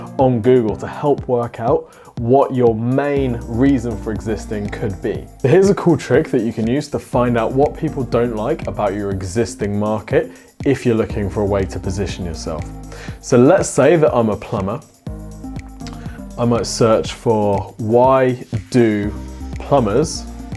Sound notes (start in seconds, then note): none